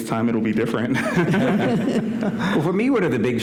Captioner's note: laughter